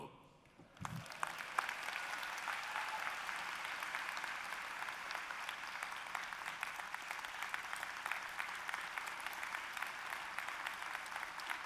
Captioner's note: applause